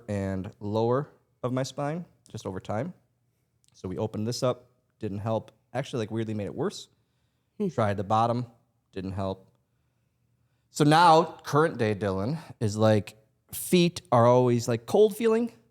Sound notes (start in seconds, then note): none